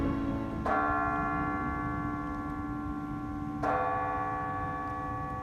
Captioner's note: clock tower bell ringing